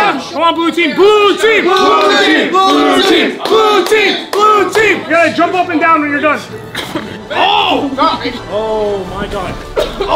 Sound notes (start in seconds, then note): 0.8 collective cheering